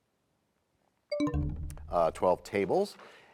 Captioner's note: bell chimes, time expires